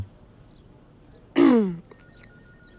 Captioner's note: Clearing throat